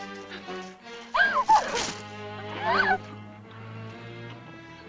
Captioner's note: tense music; she moans